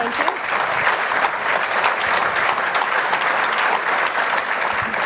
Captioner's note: applause